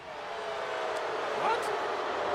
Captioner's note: crowd booing